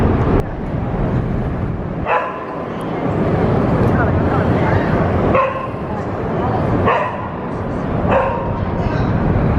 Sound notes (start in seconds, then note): 2.0 dog barking